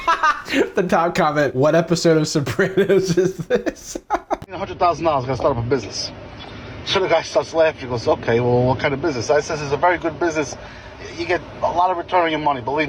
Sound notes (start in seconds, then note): 0.0 laughs